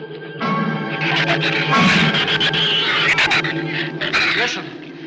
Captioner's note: shrews screech